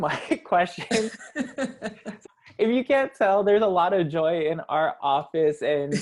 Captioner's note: laugh